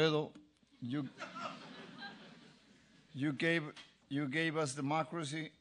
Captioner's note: laugh